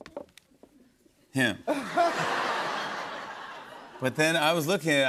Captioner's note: laughter